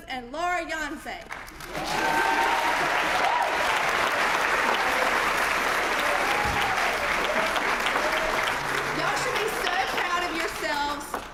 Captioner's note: applause